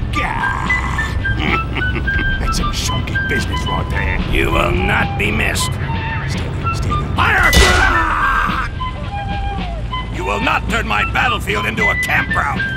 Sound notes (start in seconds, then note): 1.0 The M36 GMC chuckles; 7.6 The Ratel 90 screams